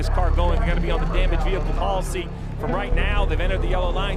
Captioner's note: crowd clamoring